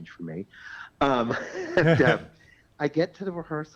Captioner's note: laughs